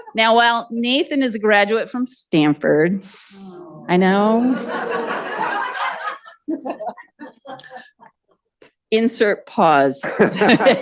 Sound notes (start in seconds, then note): 4.2 audience groan, Laughter; 4.2 audience laughter continues